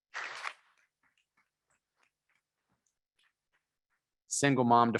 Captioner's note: members clapping